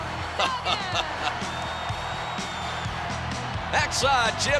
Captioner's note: chuckles